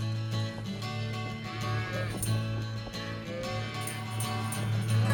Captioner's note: cow mooing